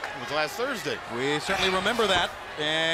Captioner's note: crowd chatter